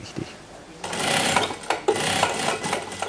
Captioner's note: rapid rattling